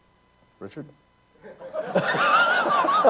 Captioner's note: laughter